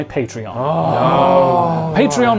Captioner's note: contestants groan